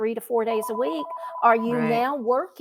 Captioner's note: phone ringing